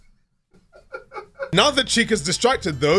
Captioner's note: laughing